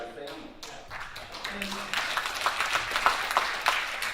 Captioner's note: audience applauding